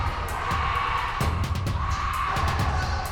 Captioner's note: yelling